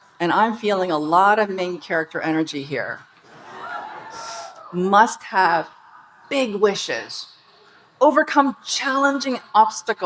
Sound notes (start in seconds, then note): 3.3 audience laughing and cheering